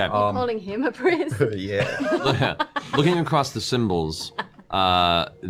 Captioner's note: laughing